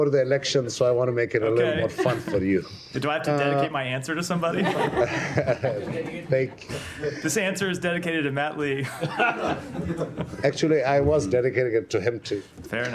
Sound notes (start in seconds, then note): 5.2 laughter